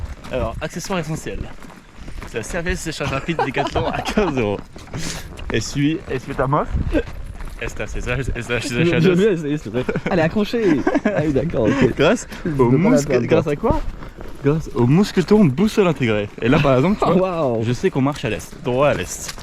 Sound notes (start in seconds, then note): 7.8 in awful Spanish